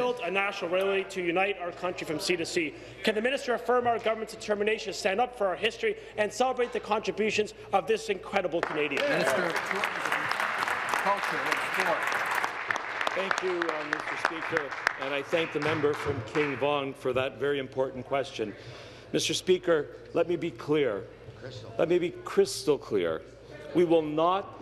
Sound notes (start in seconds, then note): 12.8 applause